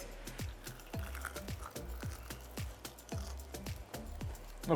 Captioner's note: chicken crunching